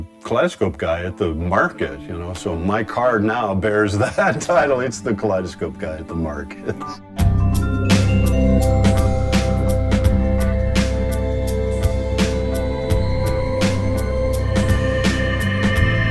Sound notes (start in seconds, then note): 3.9 chuckles; 8.2 gentle twinkly music